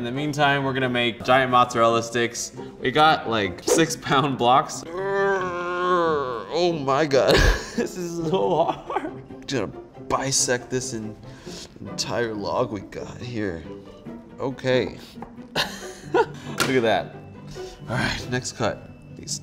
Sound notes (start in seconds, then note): 4.8 grunting; 7.2 laughs; 15.5 laughs